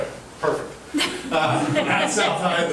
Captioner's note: laughing